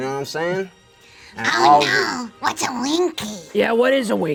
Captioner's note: screeches